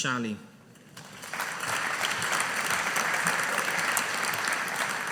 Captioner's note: audience applauding